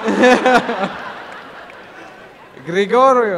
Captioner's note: laughter and applause